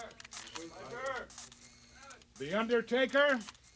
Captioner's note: cameras click